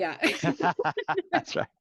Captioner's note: laughing